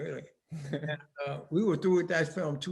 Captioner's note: both laughing